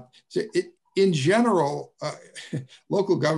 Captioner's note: laughs